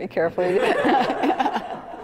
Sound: laugh; laughter

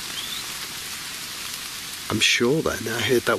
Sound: whistling

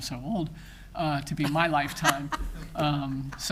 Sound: people laughing

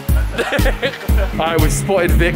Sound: laughing

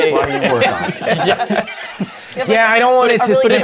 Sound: laughter

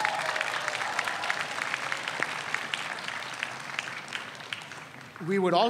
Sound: audience applauds

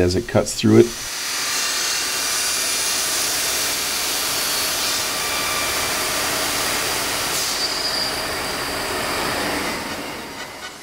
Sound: machine noise

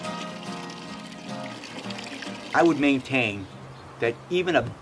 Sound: water running

